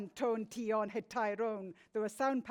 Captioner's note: speaks in foreign language